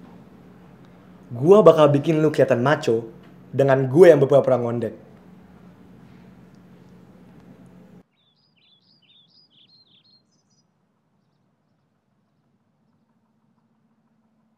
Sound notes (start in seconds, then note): none